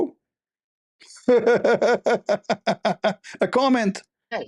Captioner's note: Ketawa